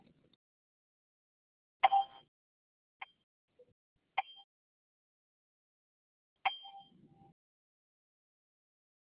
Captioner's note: sound of many beeps